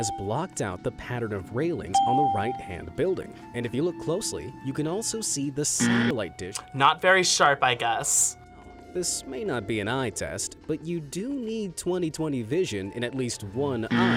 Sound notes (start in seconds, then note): 5.8 buzzer rings